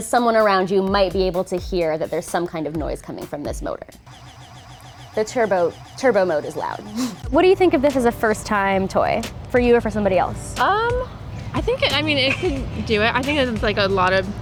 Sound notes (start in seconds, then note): 4.0 intense vibration